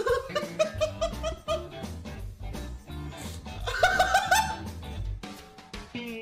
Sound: laughter

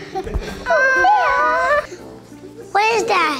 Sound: cooing

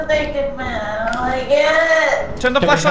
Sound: cries

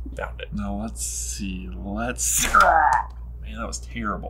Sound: growls

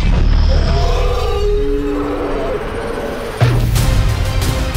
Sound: roaring

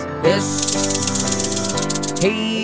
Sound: snake hissing

